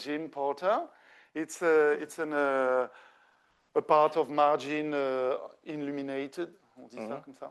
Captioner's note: speaking French